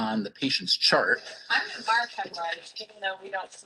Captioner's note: fast Spoken Woman